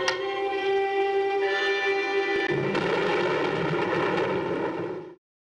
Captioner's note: thunder